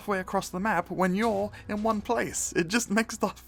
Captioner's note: breath